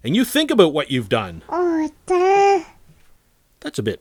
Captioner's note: baby gibberish